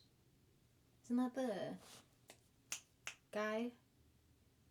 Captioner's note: snapping fingers